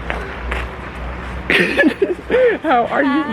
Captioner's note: lols